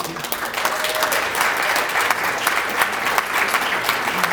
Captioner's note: applause